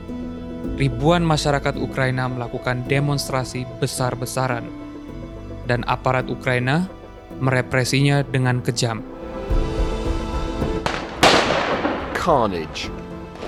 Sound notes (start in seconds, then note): 10.9 sound of gunshot